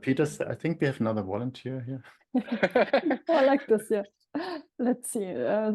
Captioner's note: laughing